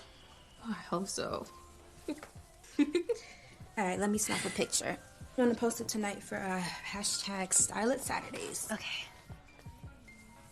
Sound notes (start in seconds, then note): 2.6 giggles